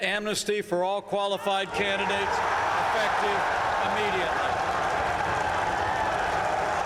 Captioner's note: applause